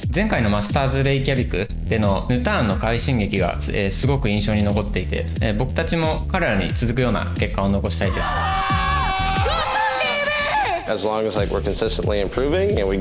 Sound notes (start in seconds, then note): 8.0 Casters yelling